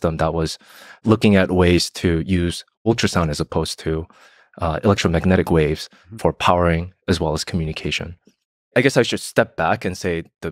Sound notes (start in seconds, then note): none